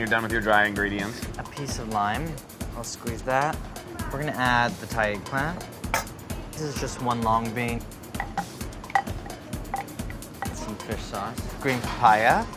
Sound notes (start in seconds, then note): 8.1 sound of mortar and pestle